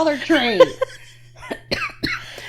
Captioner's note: laughing